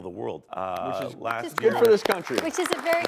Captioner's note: audience applauding